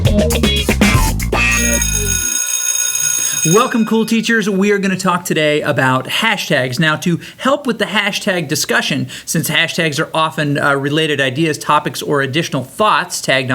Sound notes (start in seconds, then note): 1.4 school bell ringing